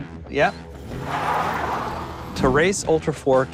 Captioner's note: tires screech